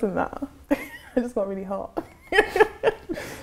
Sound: laughs

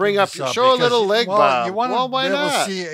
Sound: chattering

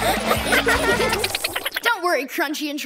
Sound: laughing

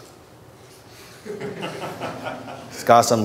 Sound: audience laughter

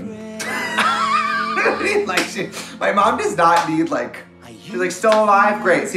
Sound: Trixie and Katya laughing

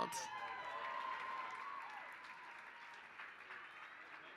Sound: applause

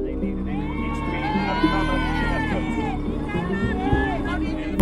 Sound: crowd cheering

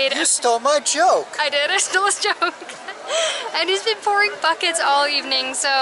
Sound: laughter

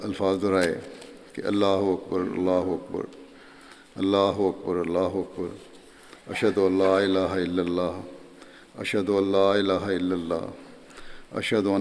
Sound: Arabic

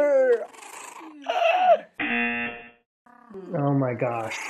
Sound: squeaks; buzzer rings

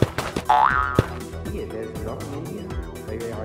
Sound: footsteps

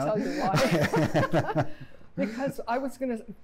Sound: laughter

